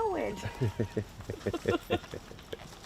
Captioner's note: chuckling